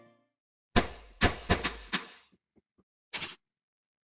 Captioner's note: sound of bullets hitting screen